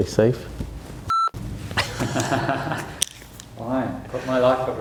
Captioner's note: laughing